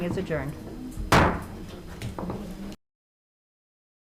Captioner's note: gavel banging